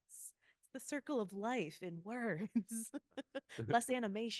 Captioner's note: laughing